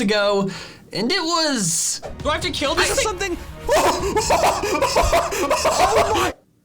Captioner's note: laughs